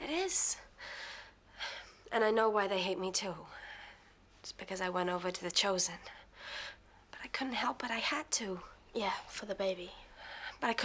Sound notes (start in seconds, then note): none